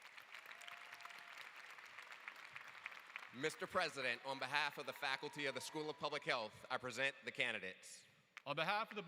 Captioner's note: applause